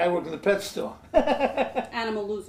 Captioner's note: laughs